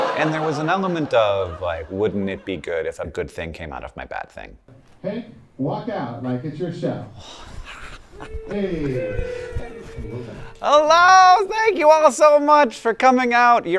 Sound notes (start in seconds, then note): 7.3 chuckling; 8.2 audience cheering